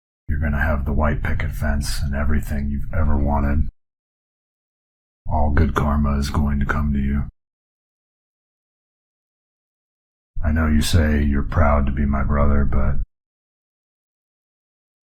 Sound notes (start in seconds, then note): none